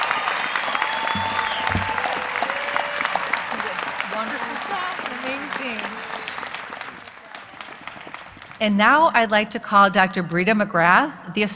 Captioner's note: cheers and applause